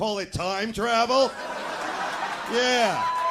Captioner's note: audience laughing